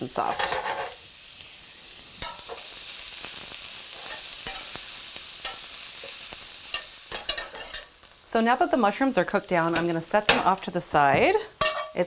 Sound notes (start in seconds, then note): 1.4 pan rattles; 1.4 utensil clatters; 5.8 food sizzles